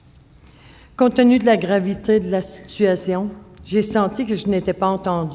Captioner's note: speaking French